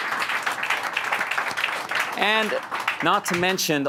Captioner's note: applause